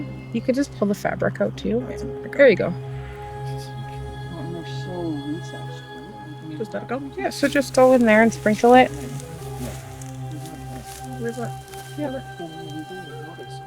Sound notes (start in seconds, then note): 4.3 group chattering indistinctly